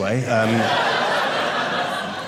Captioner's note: audience laughing